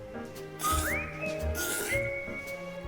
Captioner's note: slurp